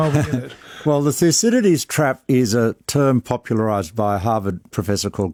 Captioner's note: laughs